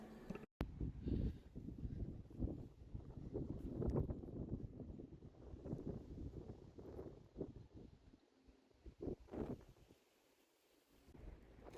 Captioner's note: wind